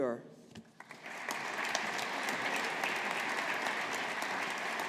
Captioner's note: audience applauding